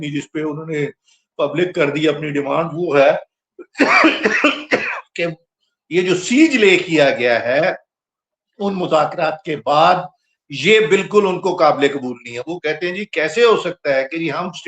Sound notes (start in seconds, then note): 3.6 clears throat; 3.6 cough; 3.8 laughter